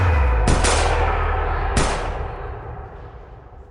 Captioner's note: guns firing